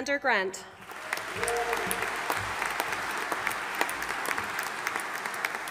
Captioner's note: audience applauding